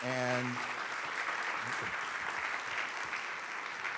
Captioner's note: audience claps